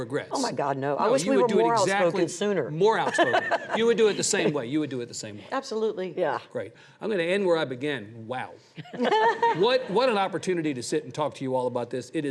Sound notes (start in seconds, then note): 3.5 laughs